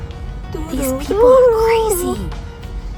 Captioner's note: loud whisper